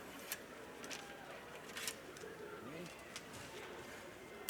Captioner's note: crowd chattering